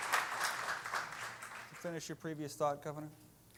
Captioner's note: applause